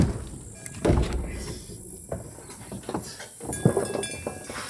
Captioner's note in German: Leise Kuhglocken, sanftes Insektenzirpen